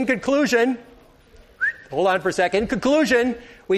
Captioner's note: whistles